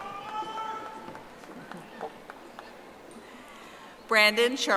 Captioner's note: audience applauding